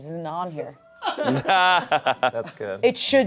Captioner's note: everyone laughs